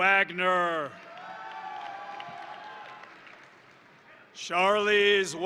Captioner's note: crowd cheering; crowd applauding